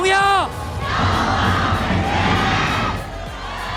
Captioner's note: crowd